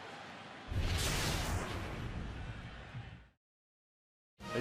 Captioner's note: swoosh